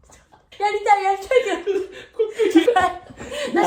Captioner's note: laughter